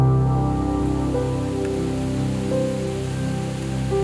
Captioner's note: leaves quaking